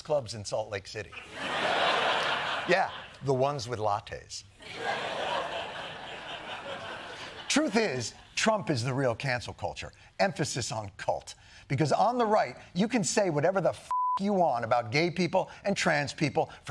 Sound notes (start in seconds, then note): 4.6 laughter